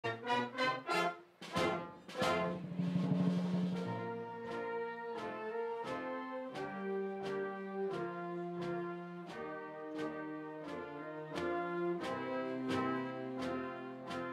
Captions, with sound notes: attention to the graduates entering from the Class of 2018 ! (applause).